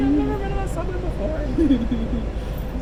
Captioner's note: laughs